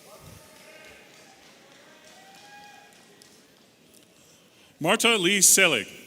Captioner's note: audience applauding and cheering